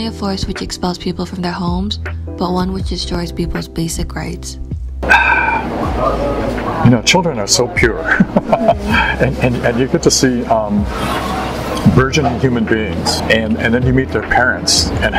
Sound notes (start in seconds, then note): 5.0 sigh; 8.0 laughter